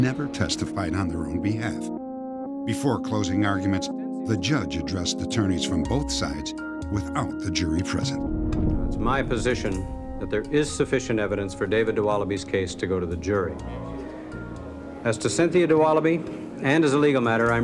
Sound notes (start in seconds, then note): 14.3 gasps